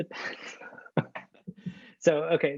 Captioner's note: laughs